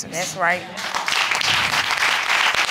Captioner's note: applause